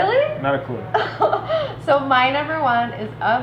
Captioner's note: laughing